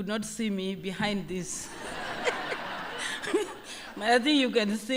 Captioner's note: laughter